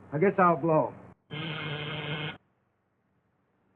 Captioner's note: door buzzer